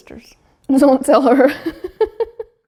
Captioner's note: laughs